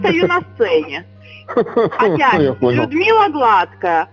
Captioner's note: laughs